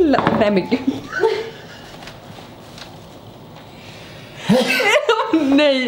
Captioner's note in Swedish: skrattar